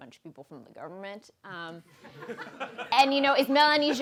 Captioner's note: laughing